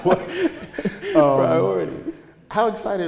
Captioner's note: both laughing